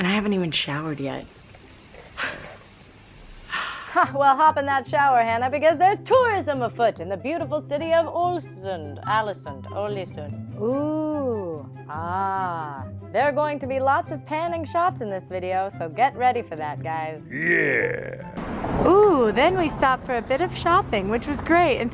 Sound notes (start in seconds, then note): 1.6 laughs softly; 4.3 voiceover; 17.4 deep Voiceover